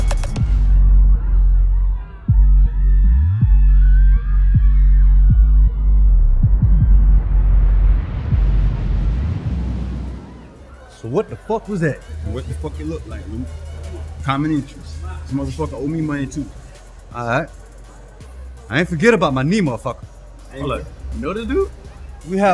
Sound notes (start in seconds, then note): 0.1 club music slowing; 3.6 club crowd screaming